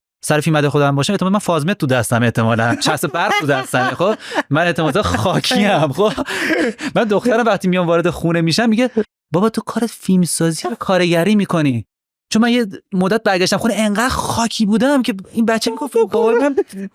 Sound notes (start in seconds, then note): 6.3 laughs